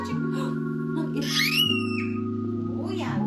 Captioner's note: screaming